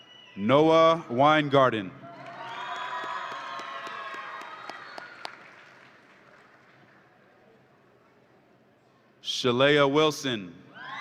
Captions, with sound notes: Noah Weingarten. (audience applauds and cheers) Shalea Wilson